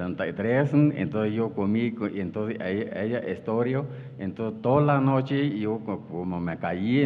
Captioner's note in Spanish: habla en wixárika